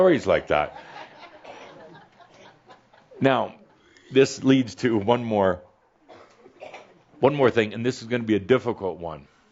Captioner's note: a few chuckles